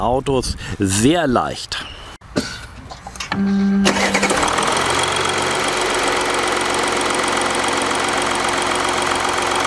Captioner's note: engine